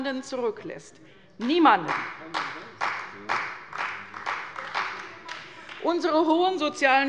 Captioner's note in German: Beifall bei der CDU - Zurufe von der LINKEN